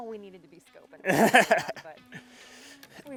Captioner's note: laughing